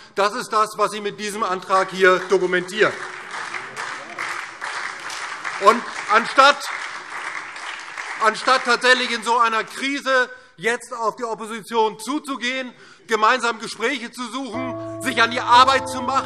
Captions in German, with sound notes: Das ist das, was Sie hier mit diesem Gesetzentwurf dokumentieren. [Beifall DIE LINKE, SPD und Freie Demokraten] Anstatt in so einer Krise jetzt auf die Opposition zuzugehen, gemeinsame Gespräche zu suchen, sich an die Arbeit zu machen